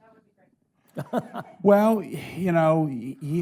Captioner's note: chuckling